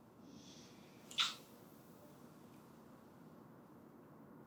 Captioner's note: kissing